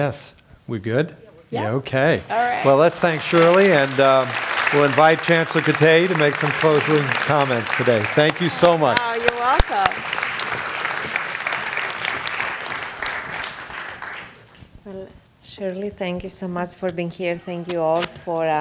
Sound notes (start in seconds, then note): 4.0 applause; 13.5 applause